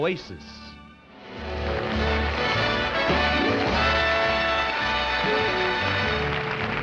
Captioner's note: uplifting instrumental music; audience applauding